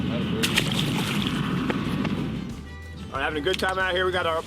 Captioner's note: water splashes